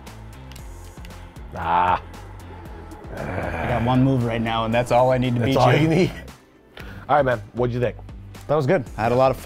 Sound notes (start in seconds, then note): 0.1 energetic music continues; 2.6 grunts; 5.0 laughs